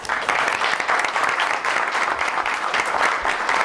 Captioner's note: applause